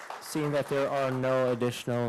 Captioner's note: applause